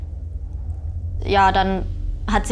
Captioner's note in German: Dröhnen